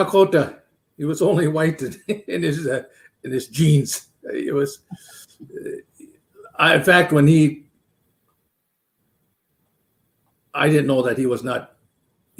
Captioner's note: laughs